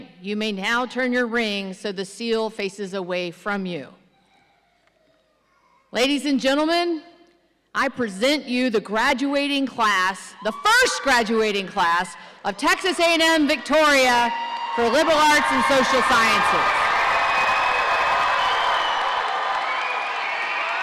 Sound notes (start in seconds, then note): 16.7 audience cheering